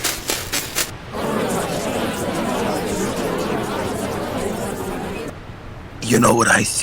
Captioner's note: indistinctive chattering